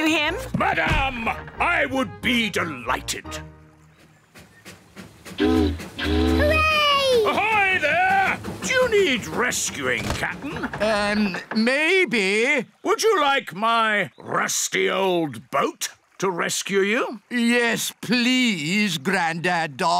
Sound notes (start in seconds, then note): 4.2 chugging; 5.3 boat horn honking